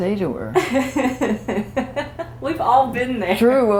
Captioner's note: laughter